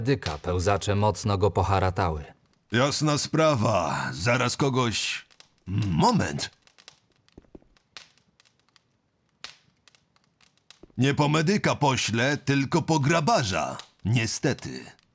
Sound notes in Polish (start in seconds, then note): none